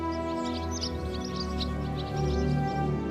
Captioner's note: birds chirping